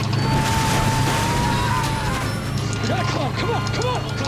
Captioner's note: airplane crashing; passengers screaming